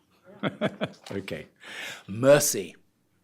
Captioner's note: audience laughter